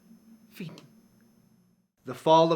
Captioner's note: speaking in foreign language